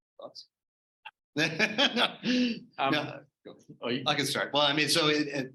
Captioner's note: laughter